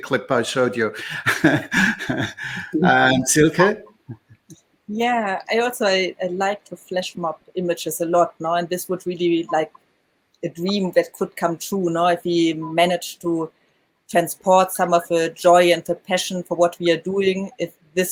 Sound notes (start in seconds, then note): 0.8 giggles